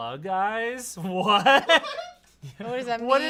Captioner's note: laughs